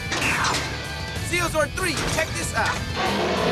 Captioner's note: roaring